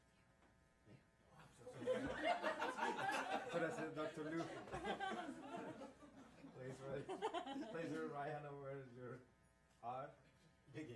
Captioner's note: laughing